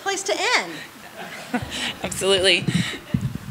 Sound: laughter

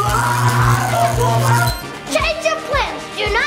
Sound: Dracula dad screams

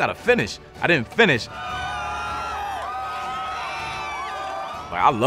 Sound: crowd cheering

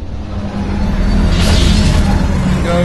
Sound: bad engine sounds

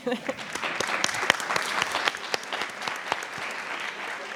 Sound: attendees applauding

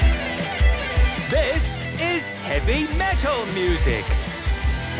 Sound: shouting

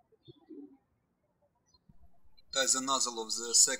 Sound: birds chirping

